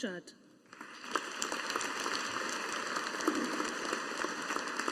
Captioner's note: audience applauding